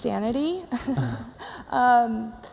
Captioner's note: chuckles